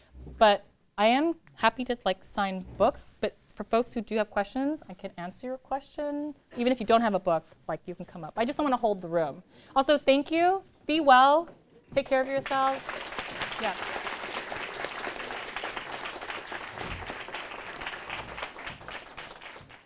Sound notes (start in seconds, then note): 12.6 applause